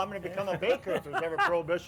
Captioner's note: laughs